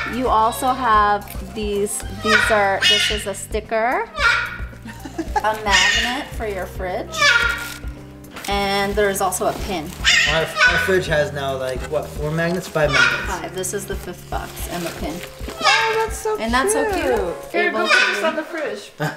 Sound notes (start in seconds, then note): 4.7 laughs delightedly; 10.0 bird squawking loudly